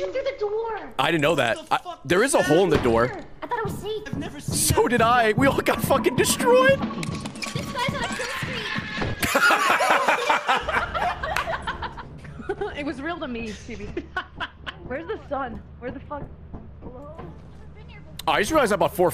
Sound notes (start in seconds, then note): 9.2 laughs; 10.2 screams